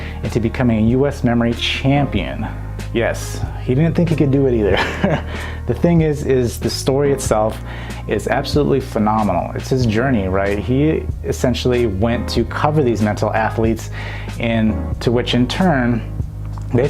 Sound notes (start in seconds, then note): 4.6 laughs